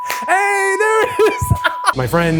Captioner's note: laughs